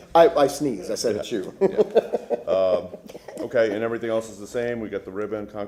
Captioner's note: laughter